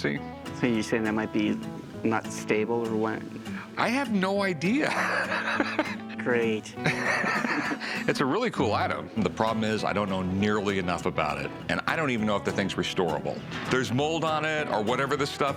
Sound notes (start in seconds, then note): 4.8 laughs